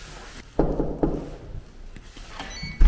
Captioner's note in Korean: 똑똑똑